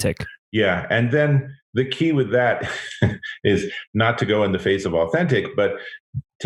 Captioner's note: laughs